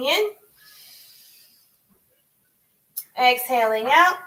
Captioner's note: inhales